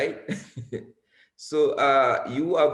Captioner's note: laughs